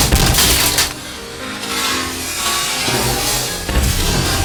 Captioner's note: armor clattering